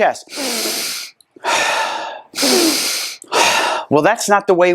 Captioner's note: inhales and exhales deeply